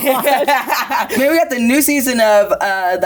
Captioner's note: both laughing